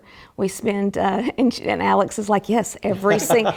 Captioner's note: laugh